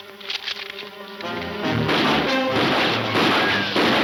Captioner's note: gunshots banging